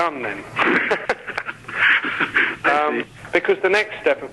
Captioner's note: both laughing